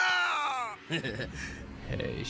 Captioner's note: Mal Laughing Evilly